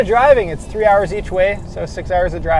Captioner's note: none